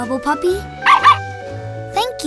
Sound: barking

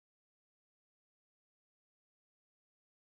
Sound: none

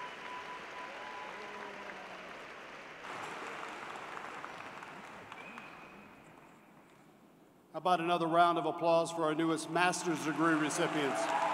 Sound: applause

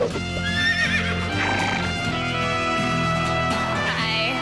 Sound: horse neighs

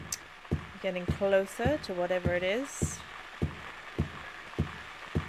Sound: radio static builds

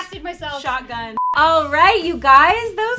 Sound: beep

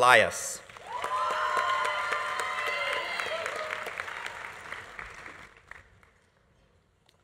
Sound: audience applauding; audience cheering

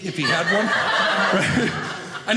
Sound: audience laughing

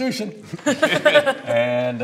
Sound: laughter

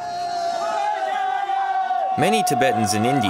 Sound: shouting

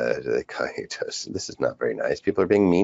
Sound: chuckles

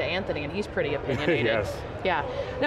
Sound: laughing

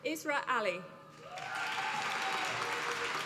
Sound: applause

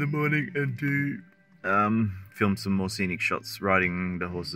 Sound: yawns

